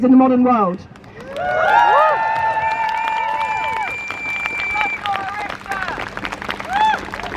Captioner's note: crowd Cheers